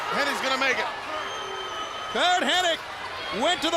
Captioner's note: crowd cheering